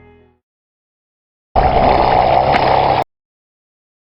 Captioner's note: brrrrr